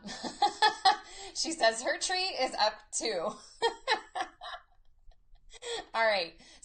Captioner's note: laughs